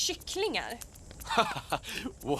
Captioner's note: duncan chuckles